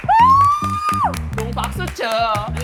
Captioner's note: clapping